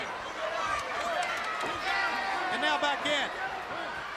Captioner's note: crowd chatter